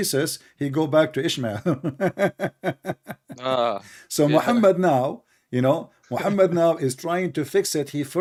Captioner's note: ketawa dengan kebodohan ini